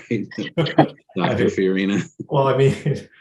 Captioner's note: guests laugh